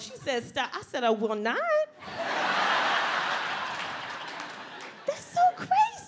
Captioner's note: audience laughs